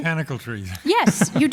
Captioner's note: laughs